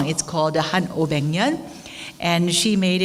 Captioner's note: speaking in foreign language